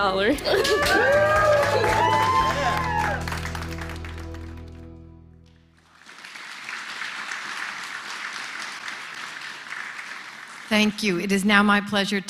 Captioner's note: applause